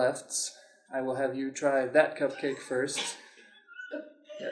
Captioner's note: laughter